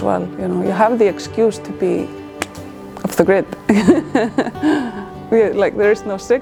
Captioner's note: laughs